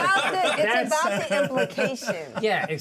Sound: speaker laughs

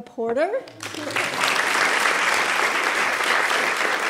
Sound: applause

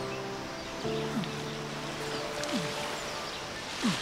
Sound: grunting

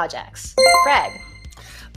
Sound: chime rings

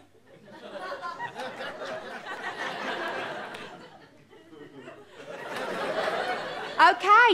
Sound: audience laughter

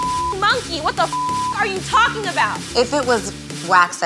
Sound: beep sound

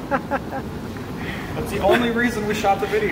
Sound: more laughter

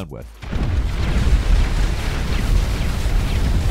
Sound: C4 explodes

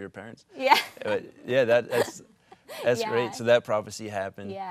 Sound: laughs

